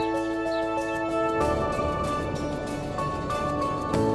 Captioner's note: wind blowing